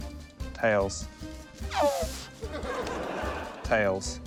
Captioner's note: splutters